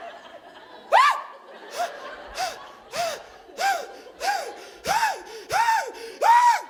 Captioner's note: audience laughing; screaming; gasping